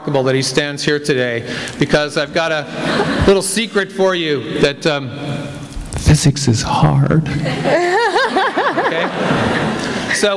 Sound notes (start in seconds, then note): 7.4 laughter